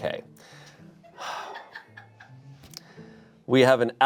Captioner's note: sighs